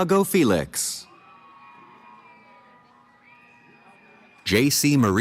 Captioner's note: cheering